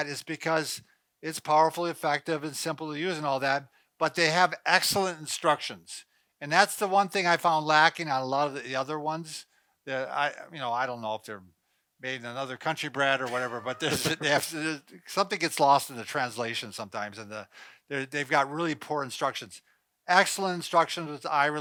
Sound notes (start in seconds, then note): 13.2 laughing